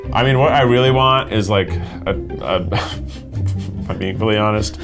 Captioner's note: laughs